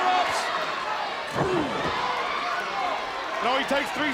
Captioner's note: applause